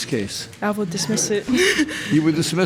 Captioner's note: laughs